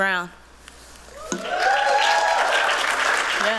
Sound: applause, cheering

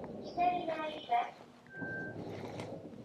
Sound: elevator annoucement in japanese

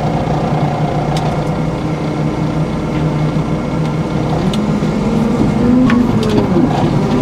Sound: engine revving

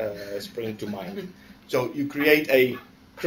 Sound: laughter

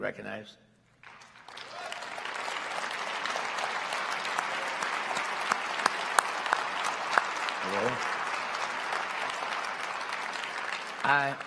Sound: applause

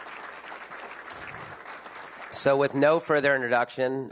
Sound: applause

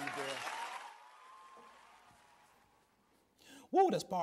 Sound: audience applause

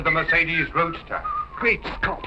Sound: whistling

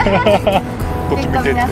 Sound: laughs

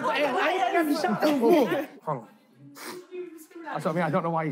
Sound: laughing

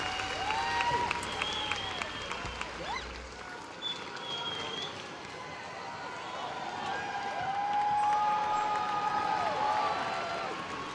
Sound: cheers and applause

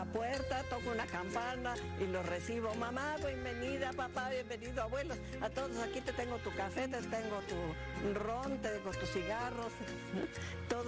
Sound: speaking spanish

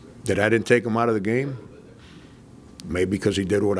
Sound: murmurs

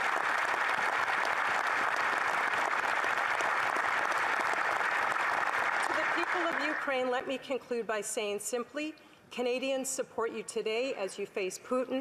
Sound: applause

